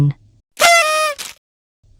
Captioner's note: cheerful party horn